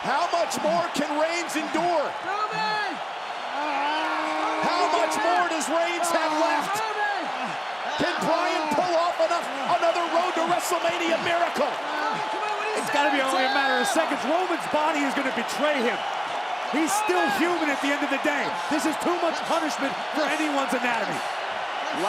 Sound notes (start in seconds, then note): 3.6 Roman groaning